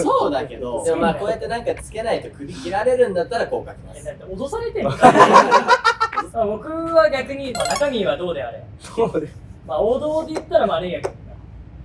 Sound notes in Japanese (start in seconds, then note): 4.8 笑い声